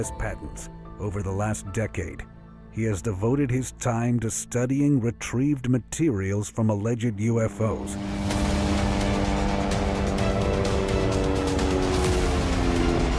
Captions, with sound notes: Over the last decade, he has devoted his time to studying retrieved materials from alleged UFOs. (helicopter engine roaring) (dramatic music)